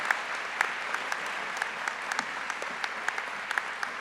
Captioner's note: applause